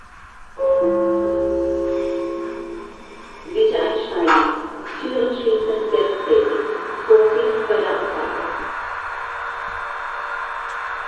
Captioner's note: gong and announcement